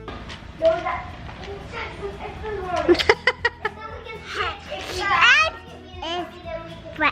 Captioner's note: child chattering; laughing